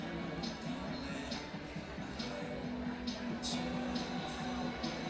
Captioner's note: audience chattering